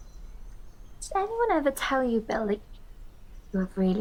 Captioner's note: in the voice of Deb